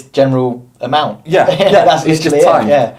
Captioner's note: laughs